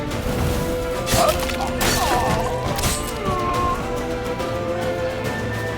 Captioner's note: groan